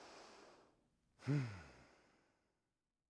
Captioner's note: sighs